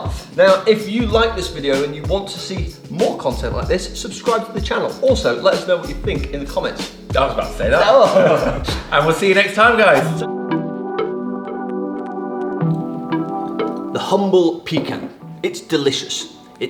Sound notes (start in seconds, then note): 8.1 chuckles; 10.5 calm music